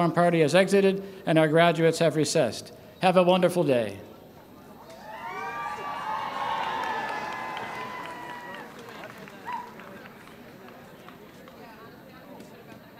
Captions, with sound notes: party has exited and our graduates have recessed. Have a wonderful day! [Cheers]